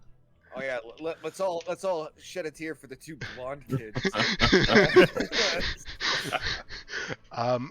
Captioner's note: sarcastically; group laughter